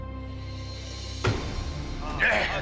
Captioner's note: thud